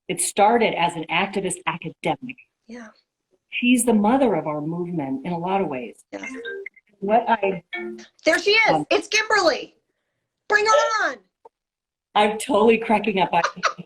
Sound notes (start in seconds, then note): 6.2 phone rings